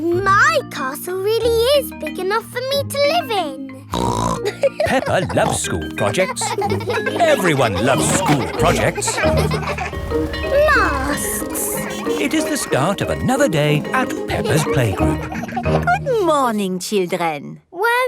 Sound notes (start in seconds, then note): 4.1 snorts and laughs; 6.9 children laughing; 9.9 bell ringing